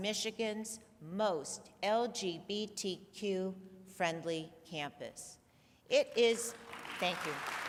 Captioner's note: applause